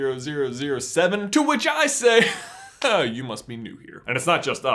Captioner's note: laughs